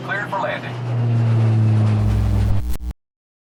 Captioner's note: distant plane